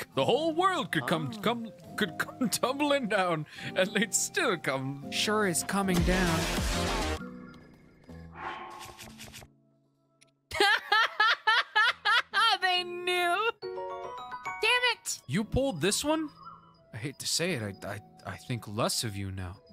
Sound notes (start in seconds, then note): 10.5 laughter